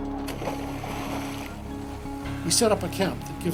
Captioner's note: water splashing